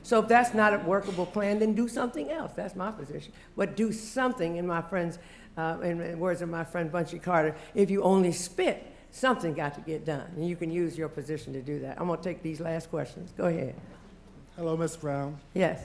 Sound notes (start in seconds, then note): none